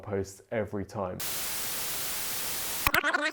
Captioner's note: electronic static; fast rewind gibberish